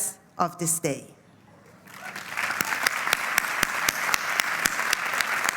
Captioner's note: applause